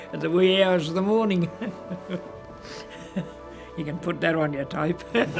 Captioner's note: laughs